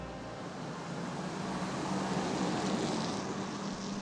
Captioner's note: van engine